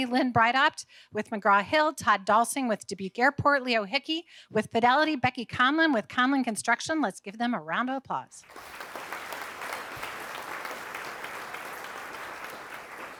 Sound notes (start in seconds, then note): 8.4 audience applauding